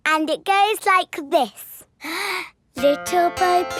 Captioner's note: inhales